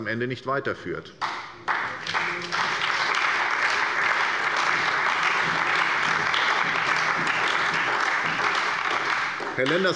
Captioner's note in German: Beifall bei der SPD, der FDP, der CDU und dem BÜNDNIS 90/DIE GRÜNEN